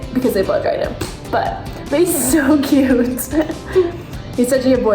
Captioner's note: chuckles